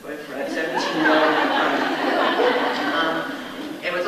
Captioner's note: audience laughs